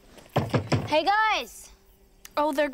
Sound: knocks on door

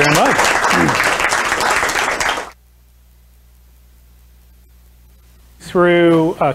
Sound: applause

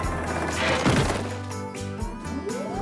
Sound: rocks Clattering; crane Whirring

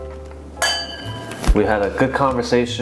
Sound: glasses clinking

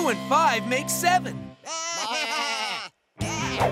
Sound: baaing

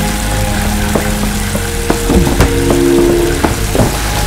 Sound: scrapes against wall

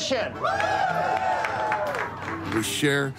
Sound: guests woohoo

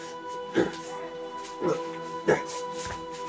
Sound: grunts

